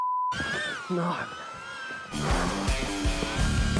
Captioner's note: beep